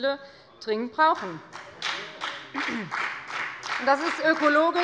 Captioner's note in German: Beifall bei der FDP